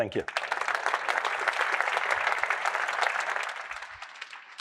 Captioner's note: applause